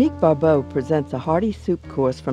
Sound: voiceover

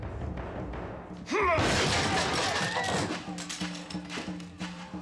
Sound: suspenseful music; metal smashing

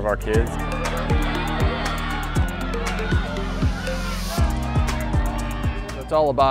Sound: bright pulsating music; audience cheers

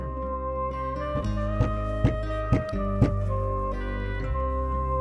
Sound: knocking on the door

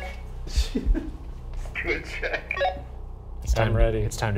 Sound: laughing

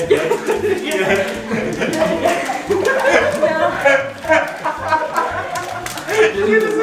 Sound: laughter

